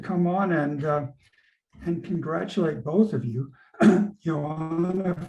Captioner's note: clear throat